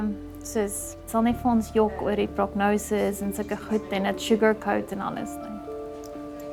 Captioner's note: speaking in foreign language